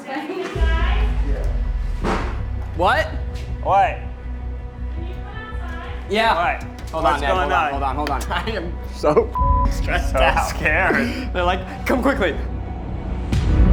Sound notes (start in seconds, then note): 9.3 beep; 13.5 dramatic music